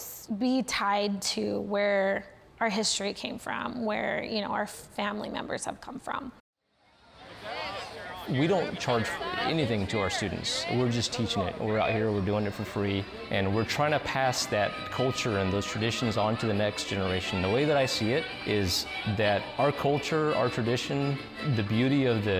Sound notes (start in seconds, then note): 6.4 sounds of the fair